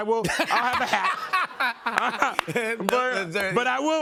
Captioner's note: laughter